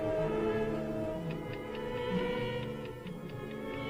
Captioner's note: ticking